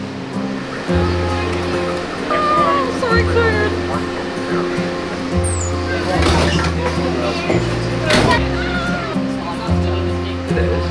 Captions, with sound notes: Aagh, so excited! [doors closing]